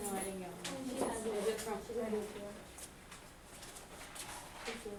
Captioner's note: voiceover; student talking faintly